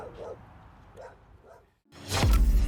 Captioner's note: dog barking; ambient music